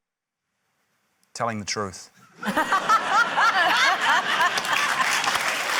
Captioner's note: laughter, applause